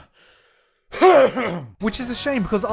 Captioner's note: coughs again